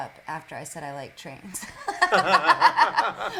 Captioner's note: laughter